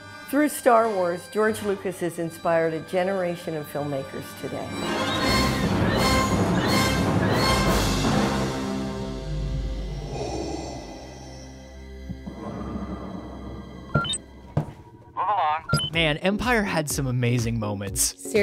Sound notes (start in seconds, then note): 5.2 dramatic music; 9.5 darth vader breathing; 13.8 robotic beeping; 15.5 robotic beeping